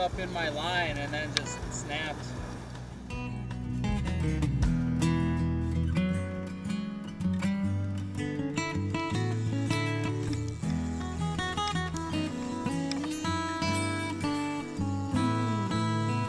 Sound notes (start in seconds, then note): 8.1 drag spinning